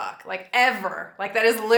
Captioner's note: none